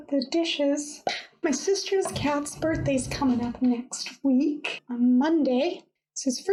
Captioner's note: pop!